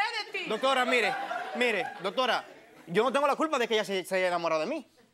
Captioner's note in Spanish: Risas